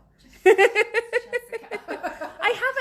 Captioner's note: laughs loudly